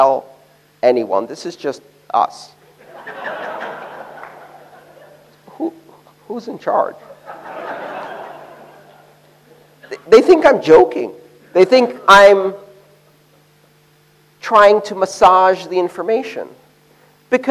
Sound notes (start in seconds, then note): 2.7 laughter